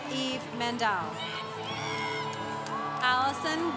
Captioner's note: congregation cheering